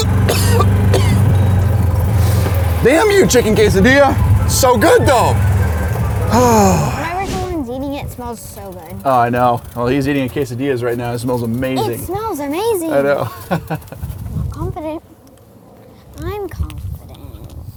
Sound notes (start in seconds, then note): 6.2 sighs; 13.1 chuckles